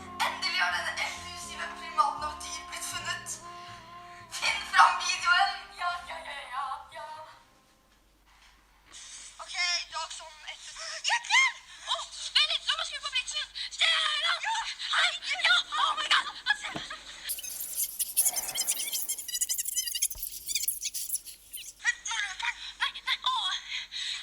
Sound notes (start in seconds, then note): 13.6 the sound of young and young news anchors excitement; 17.3 the sound of the young news anchor fast forwarding